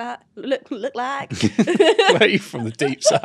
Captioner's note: both laugh